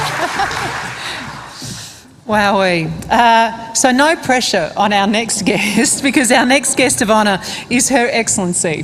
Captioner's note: applause